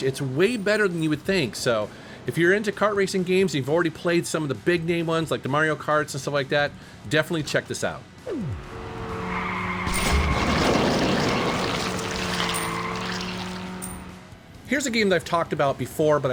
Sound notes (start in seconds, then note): 8.2 kart engine rumbling; 9.0 slime squishing; 13.8 coin chiming